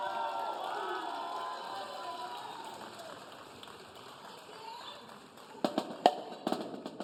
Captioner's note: audience cheering; audience applauding; upbeat drumming music